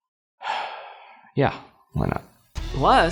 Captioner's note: sighs